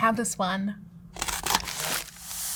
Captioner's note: cardboard tearing; paper crinkling